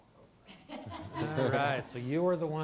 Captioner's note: laughter